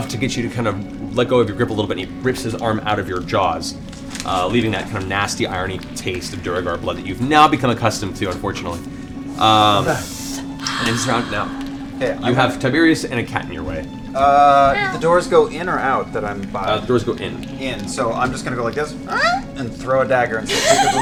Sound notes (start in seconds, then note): 14.4 meows; 19.1 hinges creak